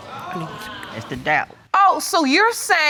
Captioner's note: audience gasps